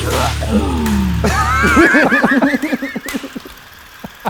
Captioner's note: intense rock music continues; laughing